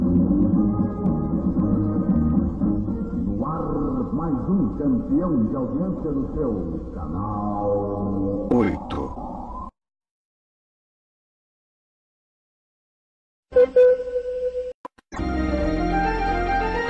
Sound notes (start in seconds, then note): 3.1 male announcer speaking Portuguese; 9.0 silence; 13.4 analog synthesizer music plays